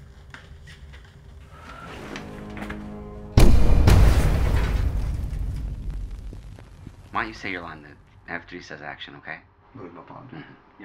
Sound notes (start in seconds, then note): 3.4 atmosphere rumbling